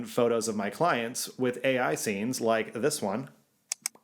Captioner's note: clicking